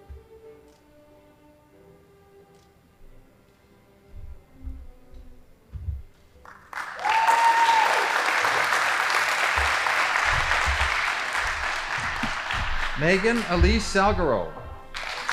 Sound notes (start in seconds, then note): 6.4 audience applauding